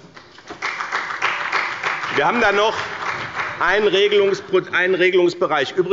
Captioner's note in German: Beifall bei BÜNDNIS 90/DIE GRÜNEN und bei Abgeordneten der CDU